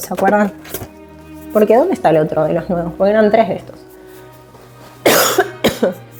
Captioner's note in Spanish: carraspeo